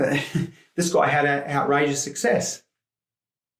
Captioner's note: chuckles